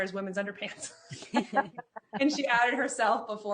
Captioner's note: laughing; chuckles